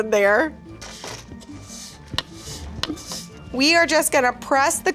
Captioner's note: spatula scraping